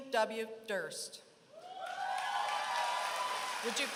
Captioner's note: applause